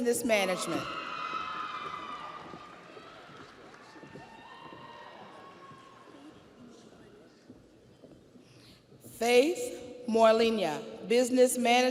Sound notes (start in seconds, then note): 6.0 audience applauds; 6.0 audience cheers